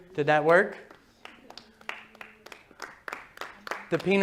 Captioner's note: applause